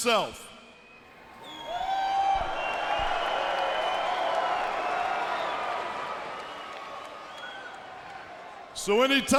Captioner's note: crowd chatter